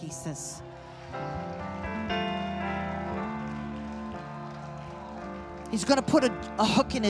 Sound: audience cheering happily

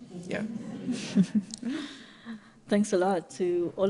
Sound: audience laughing

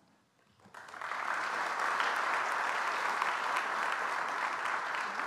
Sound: audience applauds

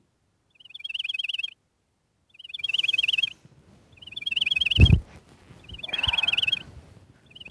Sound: cell phone alarm

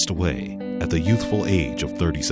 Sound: voiceover

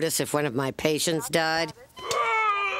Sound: gasps and continuous beep

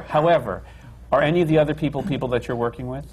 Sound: laughter

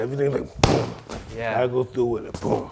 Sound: shot banging

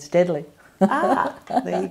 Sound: laughs

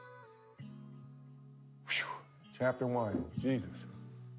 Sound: sighs

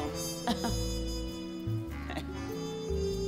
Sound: she laughs

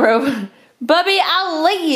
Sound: chuckles

